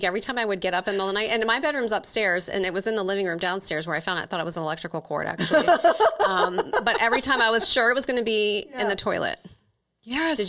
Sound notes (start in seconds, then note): 5.4 laughs